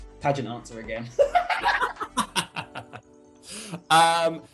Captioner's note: laughter